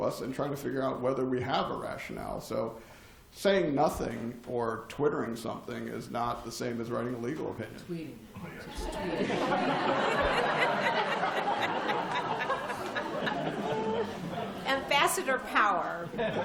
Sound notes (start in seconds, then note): 8.9 laughter